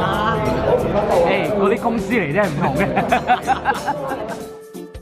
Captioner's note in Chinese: 邪惡地笑